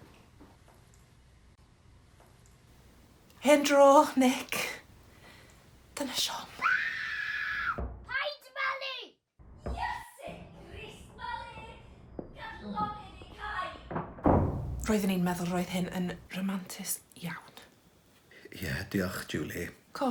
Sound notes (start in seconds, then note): 6.6 screaming; 13.8 door slamming